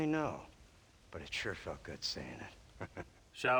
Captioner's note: laugh